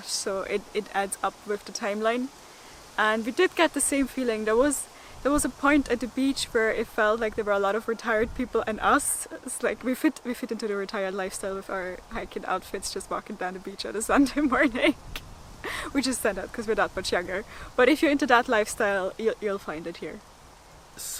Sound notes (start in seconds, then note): 15.4 laughter